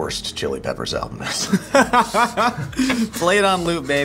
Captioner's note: laughing